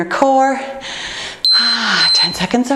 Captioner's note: timer beeping